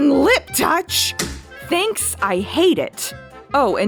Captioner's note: thump